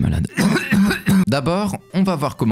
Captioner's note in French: tousse